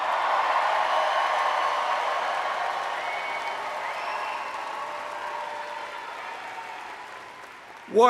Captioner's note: cheering